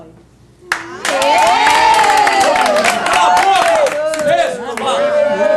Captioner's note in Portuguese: Aplausos